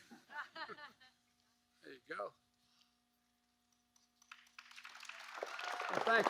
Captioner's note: laughter; applause